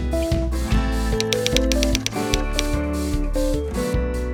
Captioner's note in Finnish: kirjoituskoneen naputusta